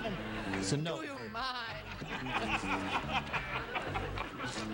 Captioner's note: Richard laughing